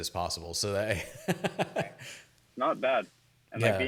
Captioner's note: laughs